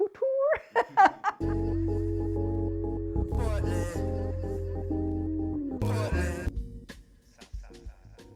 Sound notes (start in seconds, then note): 1.3 upbeat music; 2.2 laughs